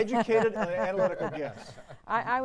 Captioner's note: laughter